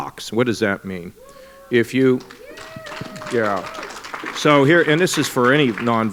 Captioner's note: applause